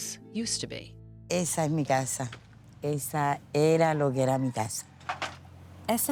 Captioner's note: speaking Spanish